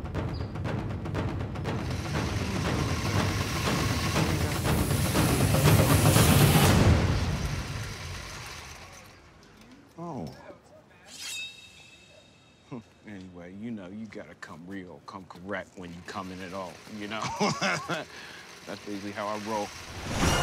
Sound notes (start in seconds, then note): 12.7 chuckles; 17.0 laughs